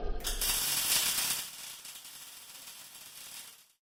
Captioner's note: clattering